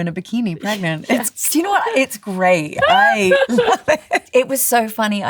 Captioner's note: laughs